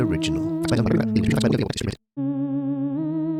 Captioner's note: spooky music; sped up talking; spooky music